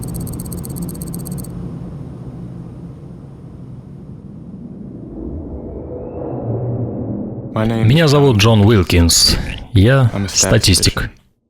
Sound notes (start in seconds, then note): 4.1 foreboding sound effect